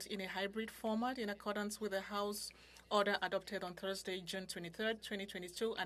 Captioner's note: speaking French